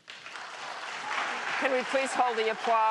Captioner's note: applause